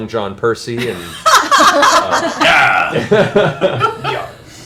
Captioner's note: laughter